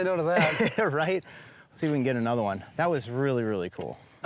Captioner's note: laughs